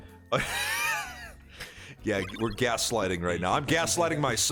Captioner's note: laughs